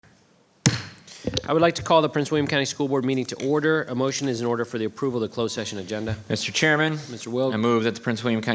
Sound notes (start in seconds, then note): 0.6 gavel bangs